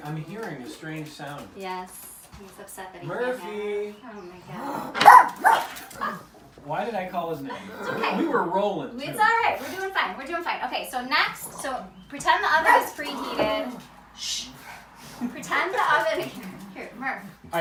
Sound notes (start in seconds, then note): 4.8 Murphy barking